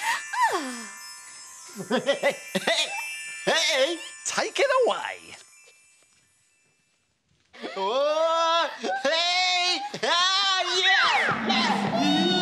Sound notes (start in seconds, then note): 0.2 sighs; 1.8 chuckles; 8.3 all shout